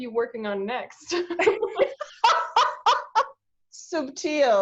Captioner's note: laughs